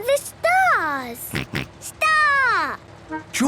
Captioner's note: snort